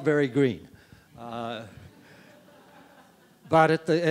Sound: audience members laughing

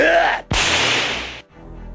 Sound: lightning bolt

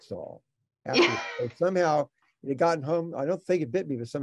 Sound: laughing

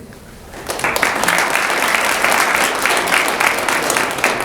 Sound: audience applauds

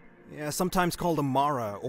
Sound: none

